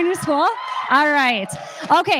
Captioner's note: crowd cheers